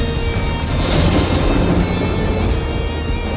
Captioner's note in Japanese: 雷鳴